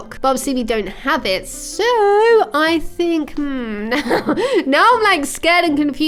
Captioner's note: laughs